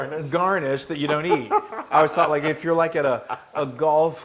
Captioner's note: laugh